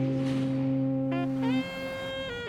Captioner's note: fog horn blowing